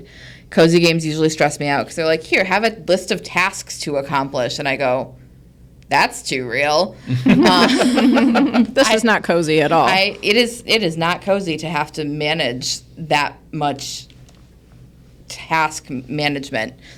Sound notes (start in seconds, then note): 7.0 group laughs